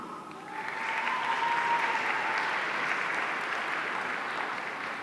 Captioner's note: audience applauding